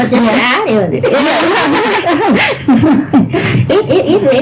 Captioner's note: laughter